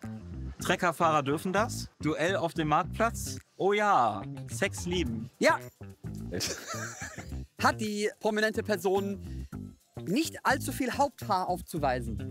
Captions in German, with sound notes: "Treckerfahrer dürfen das", "Duell auf dem Marktplatz", "Ohjaaa! - Sex lieben". - Ja! (Lachen) Hat die prominente Person nicht allzu viel Haupthaar aufzuweisen?